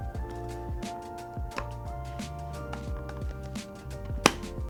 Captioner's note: chill music; button clicking